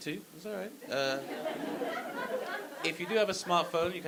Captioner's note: audience laughing